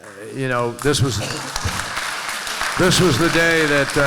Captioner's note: applause